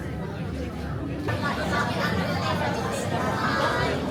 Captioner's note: crowd murmuring